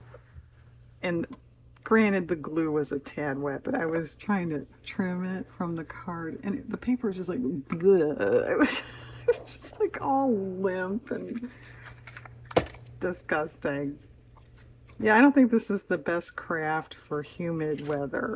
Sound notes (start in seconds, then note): 8.4 laughs